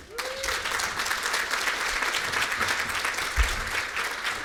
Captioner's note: applause